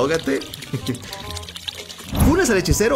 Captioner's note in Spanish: Sonido de pipí